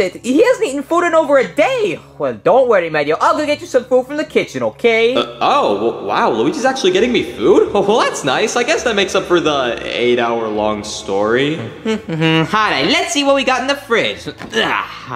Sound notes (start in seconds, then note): 11.8 Luigi humming; 14.5 Luigi groaning